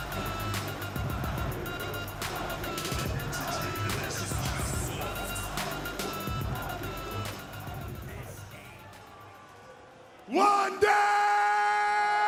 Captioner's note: crowd chatter